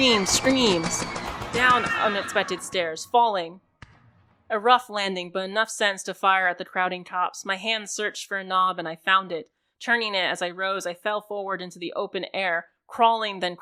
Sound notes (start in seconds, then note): 1.0 tumbling down stairs